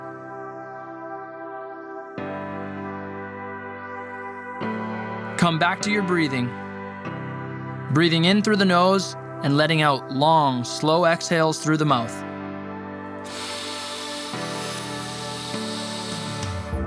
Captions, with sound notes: Come back to your breathing, breathing in through the nose and letting out long, slow exhales through the mouth. (inhaling)